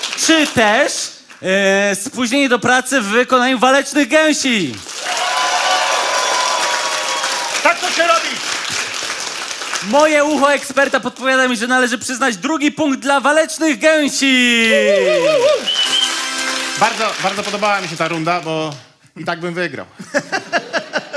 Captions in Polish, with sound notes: Czy też spóźnienie do pracy w wykonaniu Walecznych Gęsi? [OKLASKI PUBLICZNOŚCI] - Tak to się robi. - Moje ucho eksperta podpowiada mi, że należy przyznać drugi punkt dla Walecznych Gęsi. [OKLASKI PUBLICZNOŚCI] - Bardzo, bardzo podobała mi się ta runda, bo i tak bym wygrał.